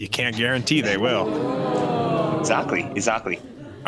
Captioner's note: audience gasping